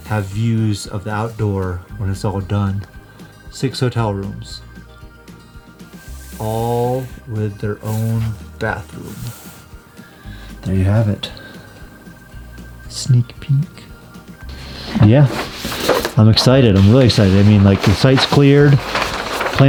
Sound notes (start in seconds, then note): 5.0 paper crinkling; 14.4 paper rustling